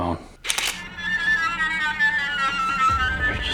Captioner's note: horn honking